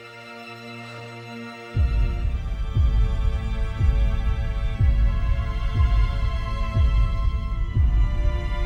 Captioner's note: timer ticking